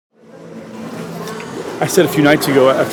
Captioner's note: people chattering